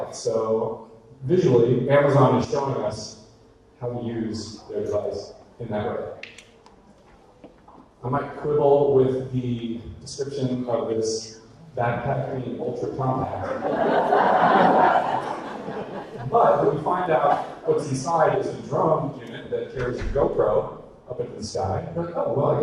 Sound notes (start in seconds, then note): 13.1 audience laughter